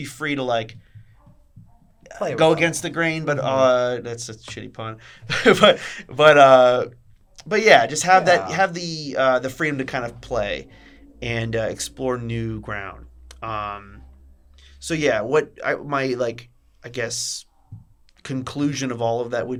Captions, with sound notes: be free to go against the grain, that's a shitty pun. [LAUGHS] But yeah, just have the freedom to play and explore new ground. So yeah, what my, I guess, conclusion of all of that